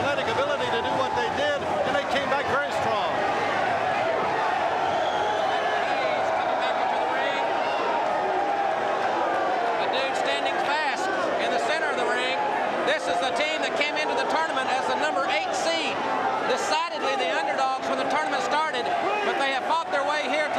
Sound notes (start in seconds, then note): 7.2 crowd cheering